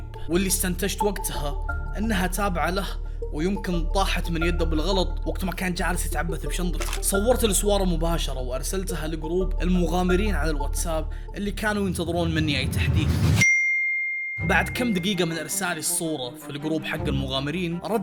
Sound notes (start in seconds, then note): 14.3 WhatsApp notification